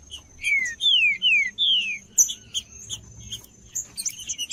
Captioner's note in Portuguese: trinca ferro cantando